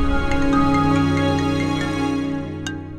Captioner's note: Phone ringing